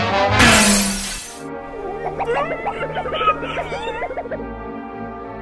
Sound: whimpers of anguish

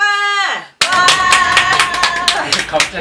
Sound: cheer

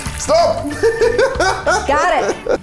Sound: laughing

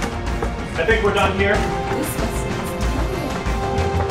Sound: alarms sounding

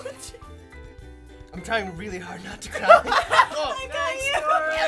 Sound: laughter

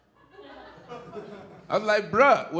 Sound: audience laughing

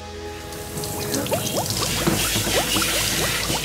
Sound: running water

